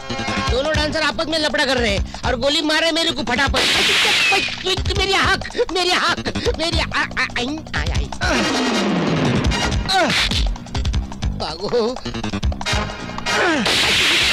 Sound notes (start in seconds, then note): 3.6 gun Firing; 13.6 gun Firing